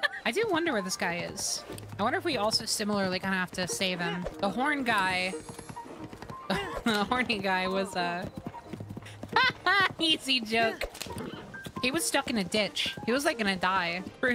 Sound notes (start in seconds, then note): 6.4 laughing